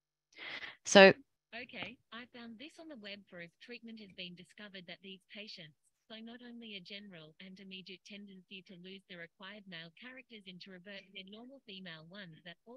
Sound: automated voice interrupting

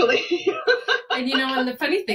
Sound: laughs

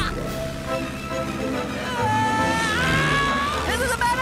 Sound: screaming

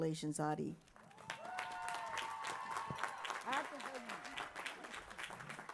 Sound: applause

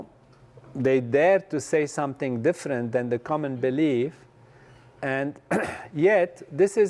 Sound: cough

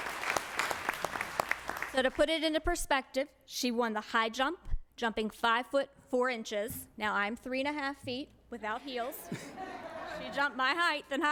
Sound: applause

